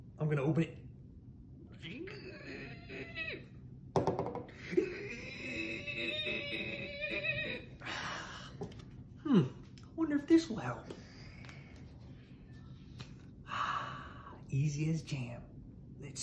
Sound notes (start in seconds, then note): 1.8 groaning; 9.2 sighs